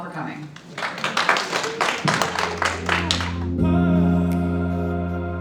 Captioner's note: audience applauds; soft electronic music